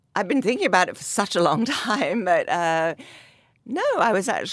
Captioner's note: laughs